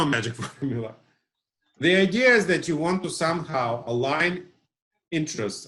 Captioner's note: laughs